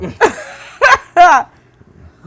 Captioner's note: laughing